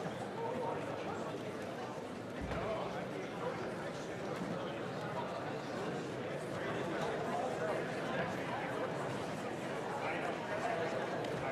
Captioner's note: chatter